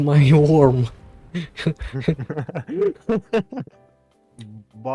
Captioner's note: laugh; evil laugh